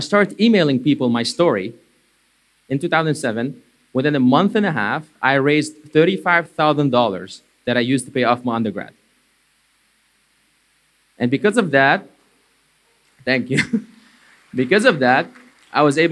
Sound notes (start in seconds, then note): 13.6 applause